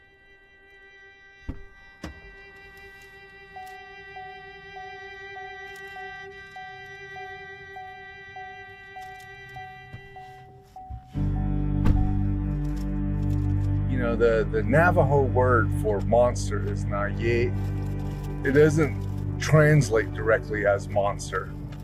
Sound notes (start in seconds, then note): 0.1 suspenseful music; 3.7 sounds of open car door; 9.5 sounds of car door closing